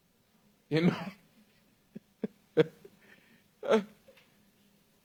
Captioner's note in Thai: เสียงหัวเราะ